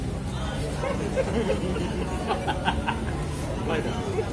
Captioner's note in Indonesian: laugh